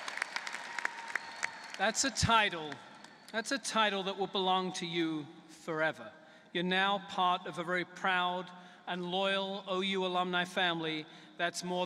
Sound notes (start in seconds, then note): 3.3 applause